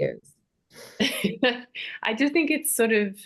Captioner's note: chuckles